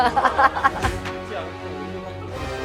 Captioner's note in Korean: 웃음